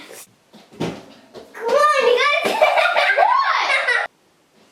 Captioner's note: laughing